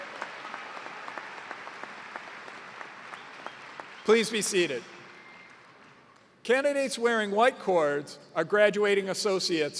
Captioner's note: cheers and applause